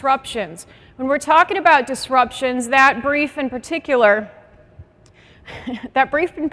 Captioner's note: laughs